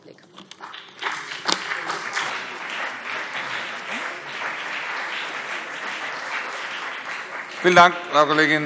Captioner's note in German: Beifall BÜNDNIS 90/DIE GRÜNEN und CDU